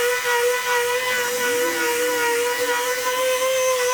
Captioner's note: sanding